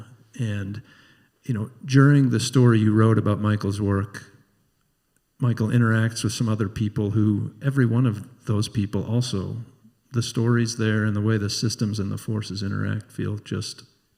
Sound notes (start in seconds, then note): none